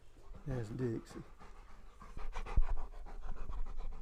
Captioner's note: dog panting